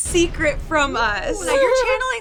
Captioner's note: chuckles